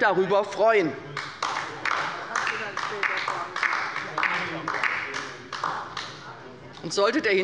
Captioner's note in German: Beifall bei der LINKEN